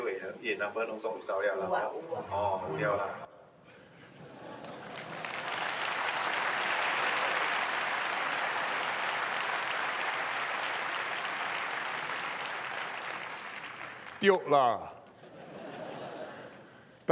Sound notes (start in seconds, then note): 4.2 laughter and applause